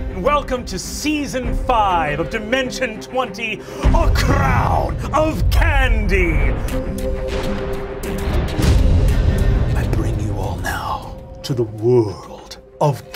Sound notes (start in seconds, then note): 5.2 explosion; 6.9 singing